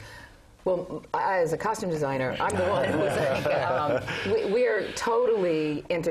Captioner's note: laugh